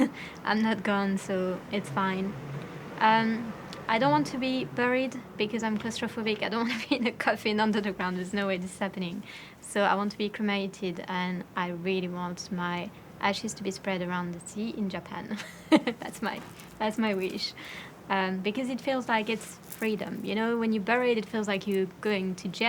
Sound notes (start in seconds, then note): 15.4 laughing